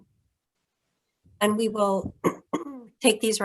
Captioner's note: clears throat